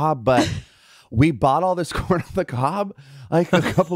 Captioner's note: chuckling